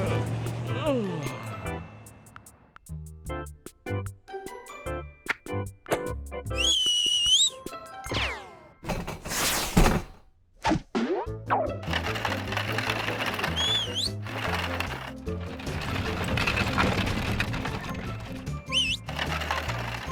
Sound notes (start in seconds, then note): 6.5 whistles; 13.3 whistles; 18.6 whistles